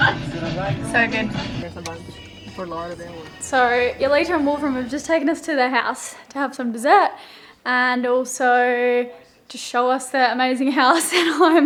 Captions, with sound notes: So good. (quiet conversation) - So, Eulita and Wolfram were just taking us to their house to have some dessert. And also to show us their amazing house.